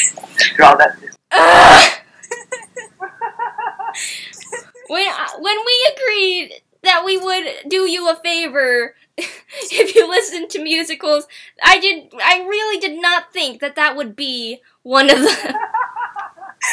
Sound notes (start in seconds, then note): 1.3 ugghhhhh